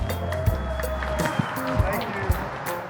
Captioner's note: applause